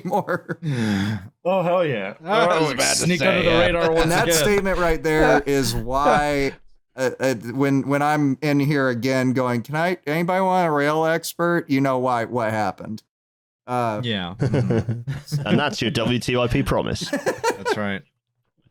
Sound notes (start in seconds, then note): 0.0 simultaneously laughs and sighs; 14.4 light laughter; 17.0 laughs